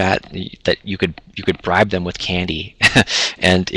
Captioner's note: laughs